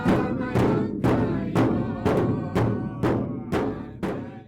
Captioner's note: chanting